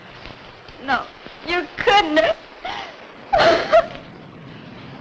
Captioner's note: sobs